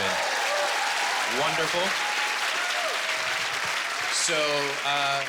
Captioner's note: audience applauding